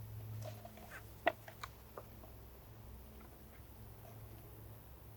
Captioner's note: tube shuffling